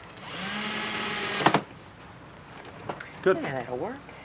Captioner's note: drill whirring